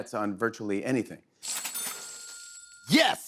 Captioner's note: cash register dings